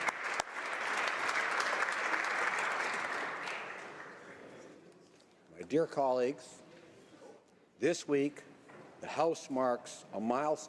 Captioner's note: some Applause